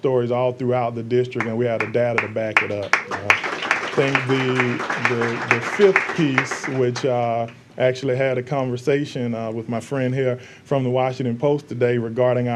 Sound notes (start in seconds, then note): 4.4 applause